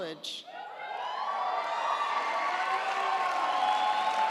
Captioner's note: audience cheering; audience applauding